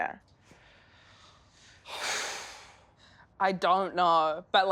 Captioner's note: breathing out loudly